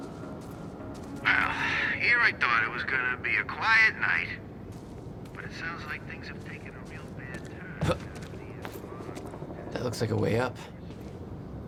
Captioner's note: on the radio